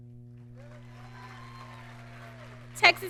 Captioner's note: audience cheering